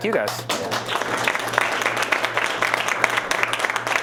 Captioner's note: applause